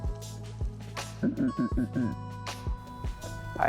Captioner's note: grunting